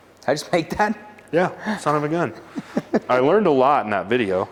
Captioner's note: laughing